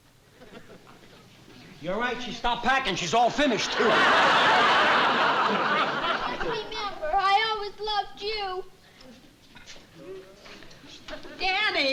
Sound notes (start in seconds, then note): 3.5 laughter